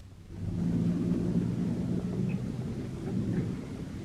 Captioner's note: engine rumbling